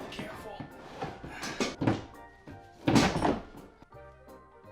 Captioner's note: clattering